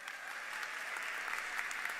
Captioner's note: applause